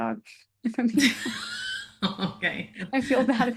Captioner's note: laughs